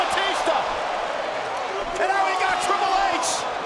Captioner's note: audience cheers